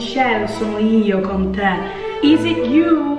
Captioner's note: speaking in Italian